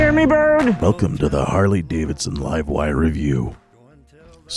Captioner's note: narrates in a deep, rough, yet sensual voice